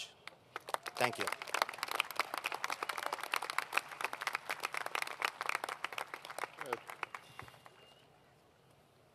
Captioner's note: applause